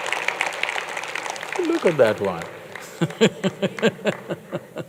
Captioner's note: laughter